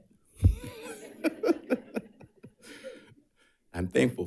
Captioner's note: audience laughs